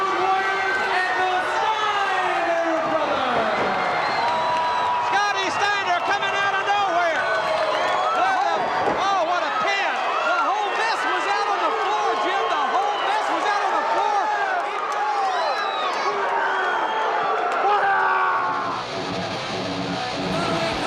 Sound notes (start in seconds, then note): 4.3 audience cheers; 19.1 upbeat music